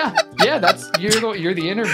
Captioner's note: laughing